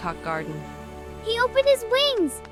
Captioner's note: clapping